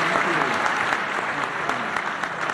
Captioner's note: applause